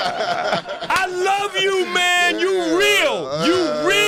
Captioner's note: laughter